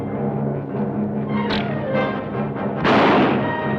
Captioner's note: bow twangs; gun fires